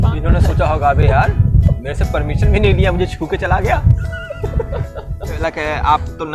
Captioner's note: both laughs